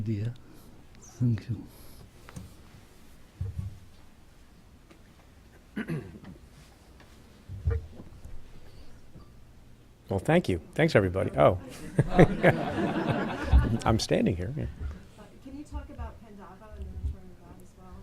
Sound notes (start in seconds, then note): 5.7 clears throat; 11.7 laughing